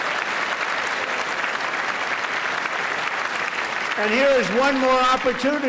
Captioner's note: applause